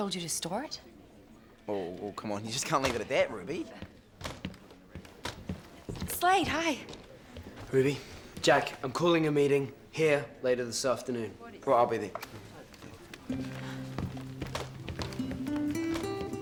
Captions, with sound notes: He told you to store it? - Whoa whoa whoa come on. You just can't leave it at that Ruby. (footsteps approaching) - Slade, hi. - Ruby. Jack, I'm calling a meeting here later this afternoon. - Well I'll be there. (gentle music)